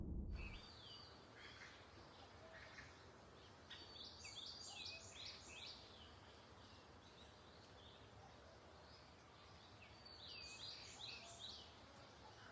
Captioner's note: birds Chirping